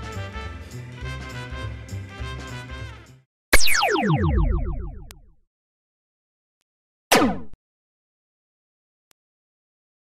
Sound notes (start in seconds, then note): 3.5 laser sounds